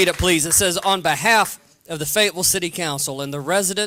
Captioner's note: applause